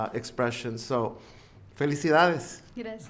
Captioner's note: speaking in foreign language